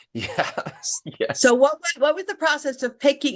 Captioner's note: chuckling